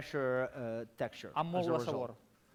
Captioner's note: non-english speech